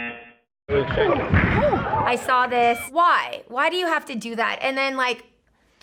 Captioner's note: buzzer; laughs; gasps